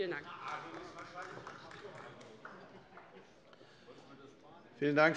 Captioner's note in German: Beifall bei Abgeordneten der LINKEN